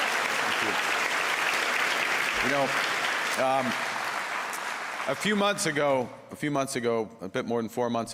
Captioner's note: cheers and Applause; applause